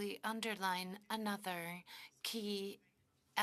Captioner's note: speaking French